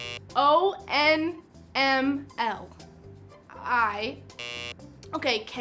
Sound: buzzer sounds; buzzer sounds

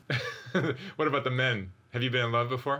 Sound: laughs

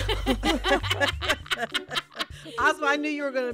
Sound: laughter

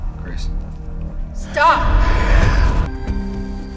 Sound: echoing

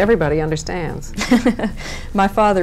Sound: laughing

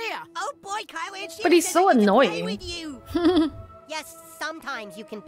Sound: chuckles

